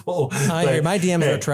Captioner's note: laugh